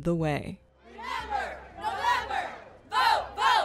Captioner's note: crowd